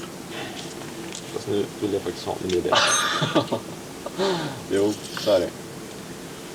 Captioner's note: laughter